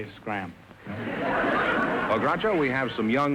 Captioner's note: audience laughter